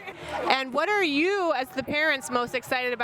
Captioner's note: laughs